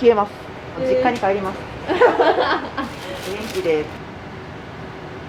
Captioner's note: laughter